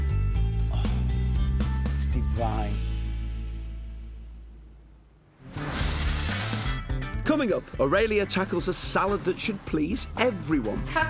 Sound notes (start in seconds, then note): 5.4 food sizzling